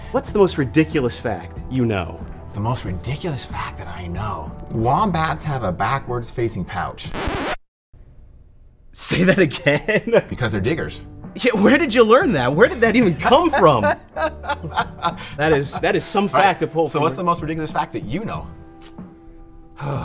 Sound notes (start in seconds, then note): 7.0 record scratches; 9.2 laughs; 12.7 laughs